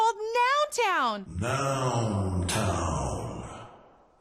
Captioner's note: voiceover